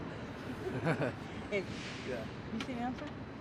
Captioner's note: light chuckle